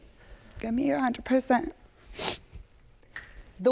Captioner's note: sniffles